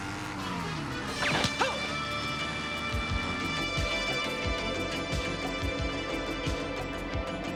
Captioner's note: gun firing; man groaning